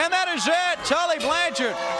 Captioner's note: crowd cheering